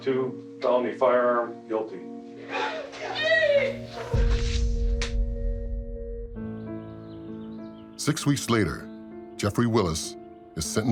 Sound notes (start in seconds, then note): 2.6 cheering